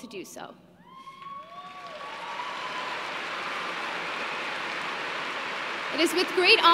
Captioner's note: applause